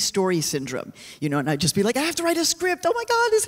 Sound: dramatically

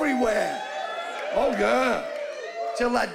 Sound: scattered whooping

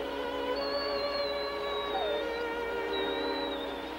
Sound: whining

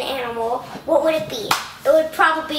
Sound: clapping

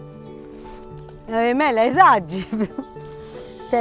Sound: laughs

